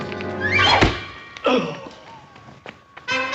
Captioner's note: whoosh! Strike!; groans